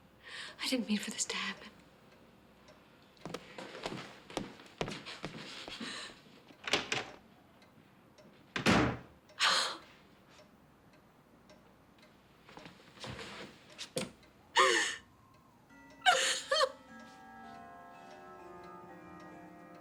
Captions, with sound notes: - I didn't mean for this to happen. (door slams) (Rebecca sobs)